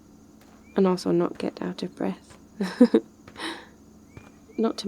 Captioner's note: laughs